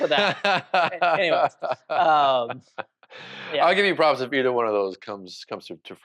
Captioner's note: laughs